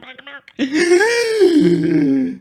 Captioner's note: gasp